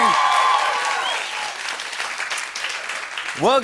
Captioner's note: cheering, whistling, and applause